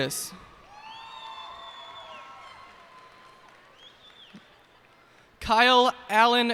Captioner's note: cheers and applause